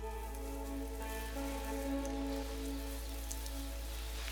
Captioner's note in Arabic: زقزقة الطيور